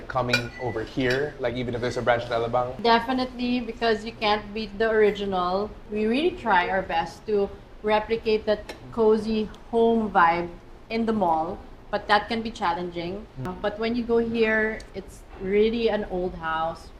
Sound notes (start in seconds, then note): none